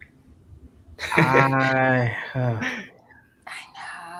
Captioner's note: laughing